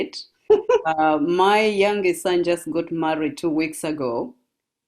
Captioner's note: laugh